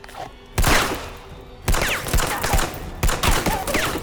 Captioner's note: gun firing